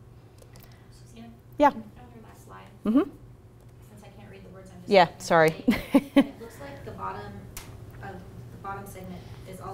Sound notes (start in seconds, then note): 5.7 laughs